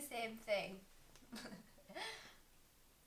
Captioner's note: chuckle